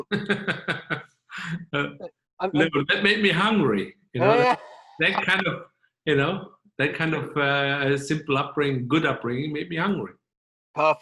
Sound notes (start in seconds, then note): 0.0 laughing; 5.3 chuckling